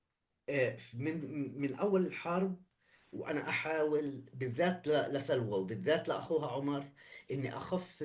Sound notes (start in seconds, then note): 0.5 speaking arabic